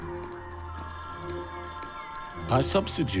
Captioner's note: phone ringing